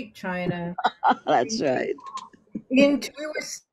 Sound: laughs

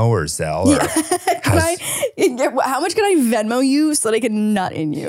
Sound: laughs

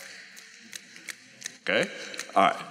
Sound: snaps fingers

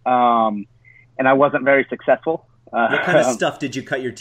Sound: laughs

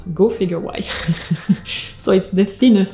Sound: laughing

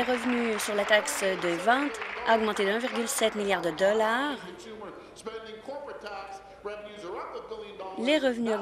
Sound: applause

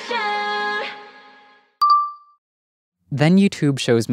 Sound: soft beep

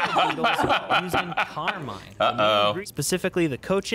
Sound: laughs

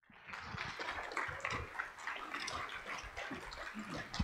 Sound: audience applauds

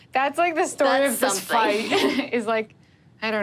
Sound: laughs

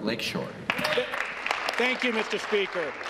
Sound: applause

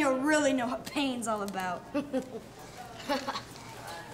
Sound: chuckles

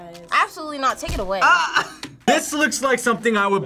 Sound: laughs

